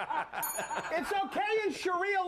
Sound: scattered laughs; bell rings

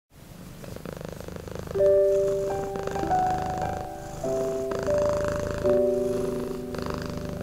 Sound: with Cat purring sounds

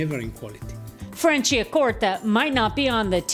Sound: voiceover

